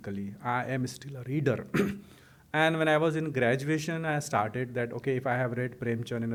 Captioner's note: clears throat